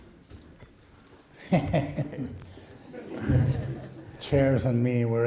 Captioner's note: laughing